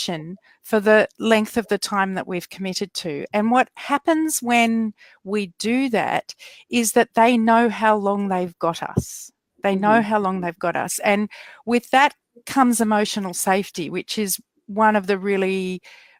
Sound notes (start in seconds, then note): none